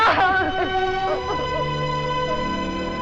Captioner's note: sobbing